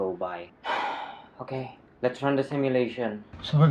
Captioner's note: sigh